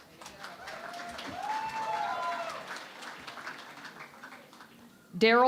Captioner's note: cheering and Applause